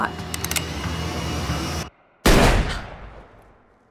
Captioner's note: gun fires